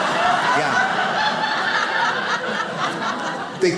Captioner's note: audience laughs